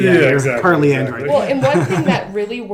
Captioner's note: laughs